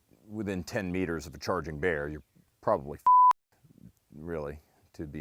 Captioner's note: beeping